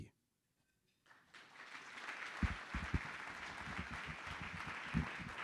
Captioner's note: audience applauding